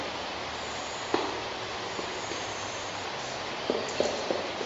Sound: woodpecker knocks

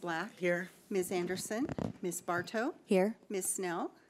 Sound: bold Voice

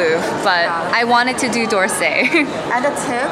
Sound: laughs

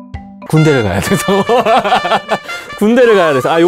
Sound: laugh

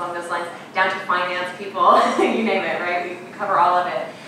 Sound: laughing

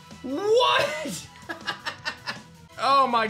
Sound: laughs

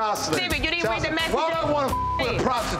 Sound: beep

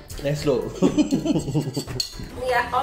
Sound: both laughing

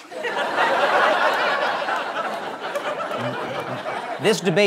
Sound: laughter

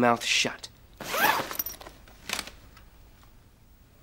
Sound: zips

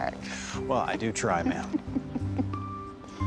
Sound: chuckling

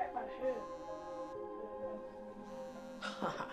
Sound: phone vibrates

